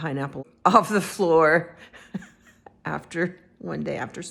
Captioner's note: laughing